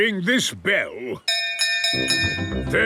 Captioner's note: bell chimes